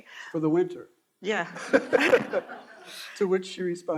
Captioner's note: all laughing